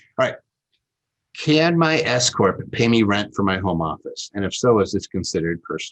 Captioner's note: none